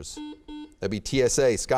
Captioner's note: beeping